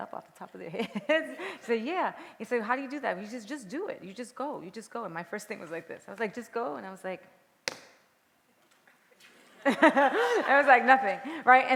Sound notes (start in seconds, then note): 7.7 tap; 9.5 laughter